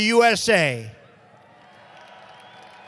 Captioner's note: applause